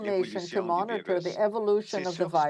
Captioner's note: speaking french